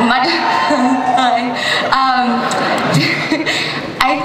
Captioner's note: audience cheers; laughs